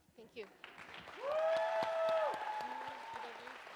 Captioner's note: audience cheers and applauds